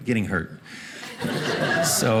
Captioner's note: audience laughing